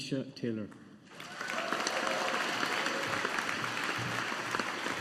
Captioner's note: audience applauding